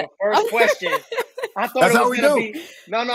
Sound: laughing

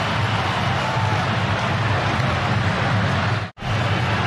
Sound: cheers and applause; crowd noise

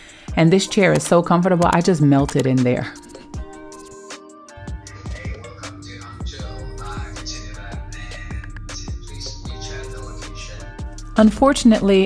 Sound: phone Call

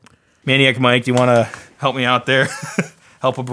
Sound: laughs

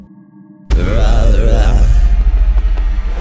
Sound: distorted moaning; suspenseful music

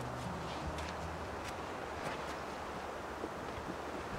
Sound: wind whistling

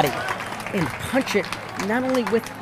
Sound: crowd clapping

